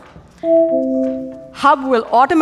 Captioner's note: doorbell rings